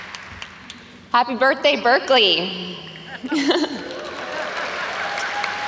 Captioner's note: laughs; audience applauds